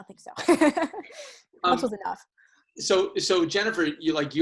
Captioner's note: laughs